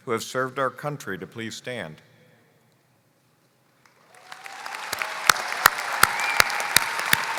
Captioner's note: applause